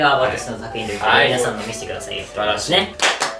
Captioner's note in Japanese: 一同拍手